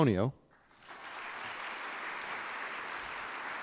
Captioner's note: applause